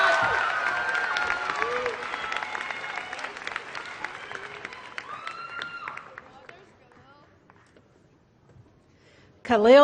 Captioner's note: applause